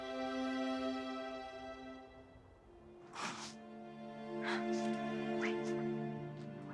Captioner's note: crying